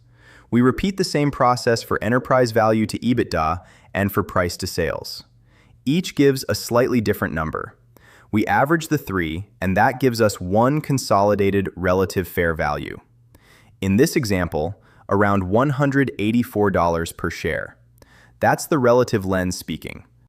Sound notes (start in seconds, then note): 12.2 thoughtful